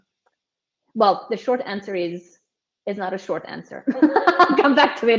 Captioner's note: laughs